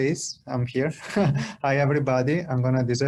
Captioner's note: laughter